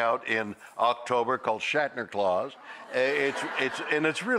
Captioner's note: audience laughing